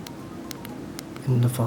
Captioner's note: click